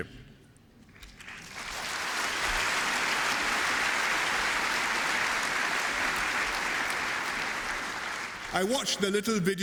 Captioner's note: applause